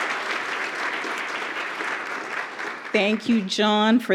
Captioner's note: applause